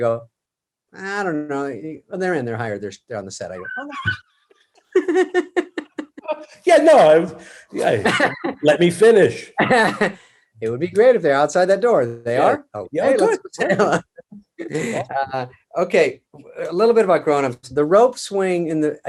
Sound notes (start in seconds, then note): 4.9 David and Kevin laugh